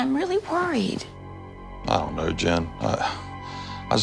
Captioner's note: sighs